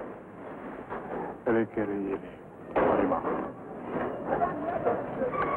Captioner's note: speaking foreign language; machinery rattling & creaking